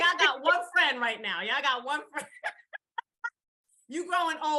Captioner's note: laughs